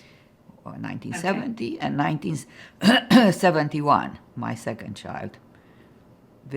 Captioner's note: clears throat